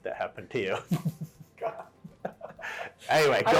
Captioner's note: both laugh